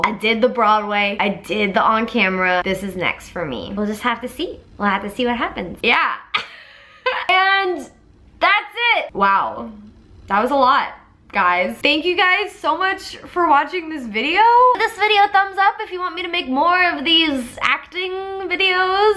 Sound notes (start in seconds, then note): 6.4 laughing